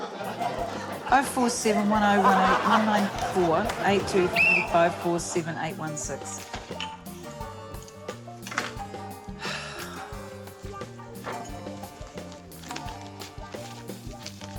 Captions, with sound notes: - Quite ambitious. - 0471018094... - (LAUGHS) - 823547816. (SIGHS)